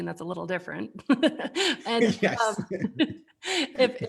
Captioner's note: laughing